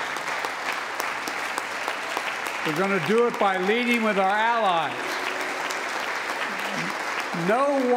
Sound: applause

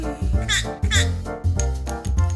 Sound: squawking

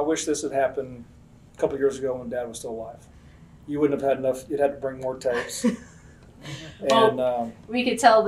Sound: laughter

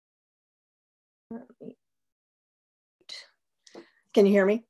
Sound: speaks distorted

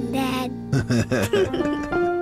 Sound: both laughing

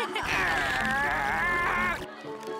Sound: laughing; groaning

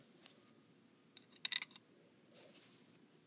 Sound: coins being inserted

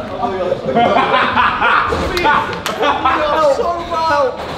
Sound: lads laughing

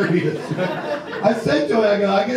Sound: audience laughs

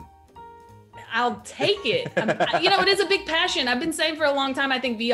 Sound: laugh

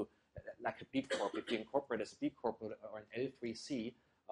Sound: cough

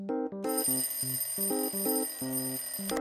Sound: alarm clock; alarm turned off

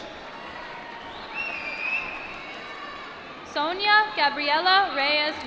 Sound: applause

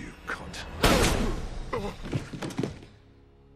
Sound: gunshot

